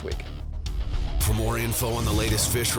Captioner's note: voiceover